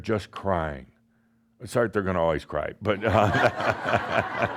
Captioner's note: laughter